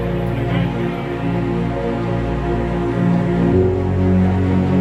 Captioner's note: crowd chatters